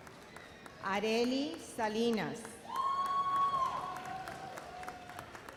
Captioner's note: audience cheers